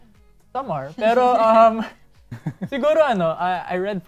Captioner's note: chuckles